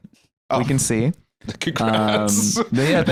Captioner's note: laughing